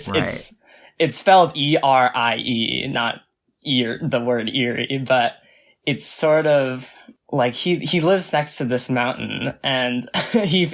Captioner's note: laughs